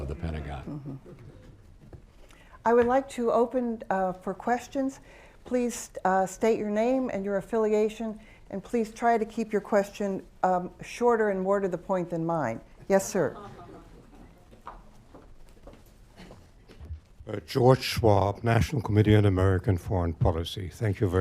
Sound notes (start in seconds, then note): 1.4 laughter; 13.7 laughter